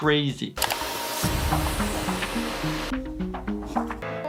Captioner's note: machine whirling